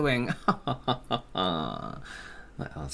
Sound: sinister Laugh

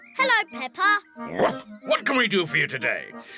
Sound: barks

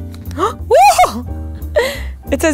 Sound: gasp; shouting

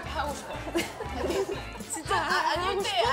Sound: haha

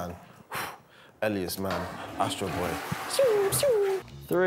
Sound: imitates laser

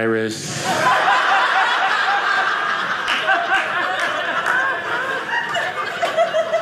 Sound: audience laughing

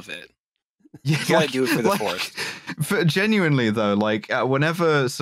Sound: laughs

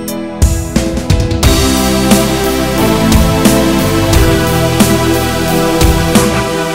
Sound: synth Voice

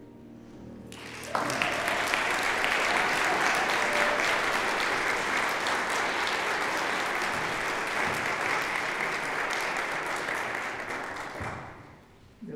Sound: applause

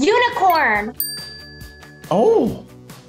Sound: timer dings

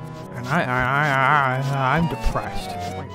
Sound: stammers

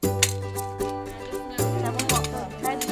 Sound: metal clicks

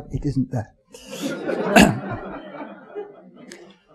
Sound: audience chuckling

